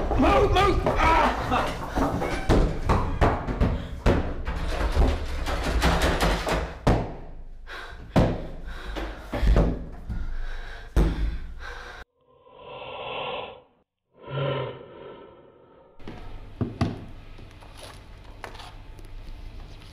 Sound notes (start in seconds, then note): 2.2 groans; 3.0 thuds; 4.6 door handle rattles; 6.9 pants; 6.9 thuds; 12.4 distorted breaths